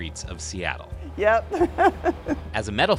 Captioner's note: laughter